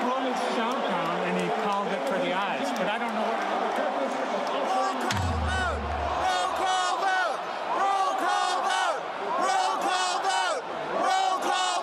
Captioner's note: cheering/followed by chanting from the floor “roll call vote”